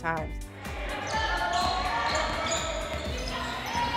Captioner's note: players shout